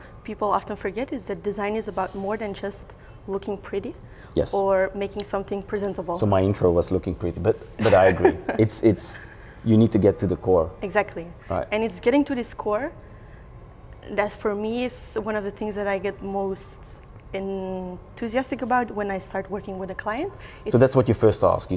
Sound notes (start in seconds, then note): 7.8 laughs